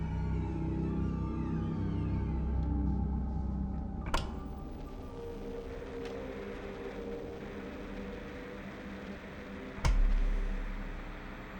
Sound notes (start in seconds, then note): 2.3 ominous music continues; 4.7 static hissing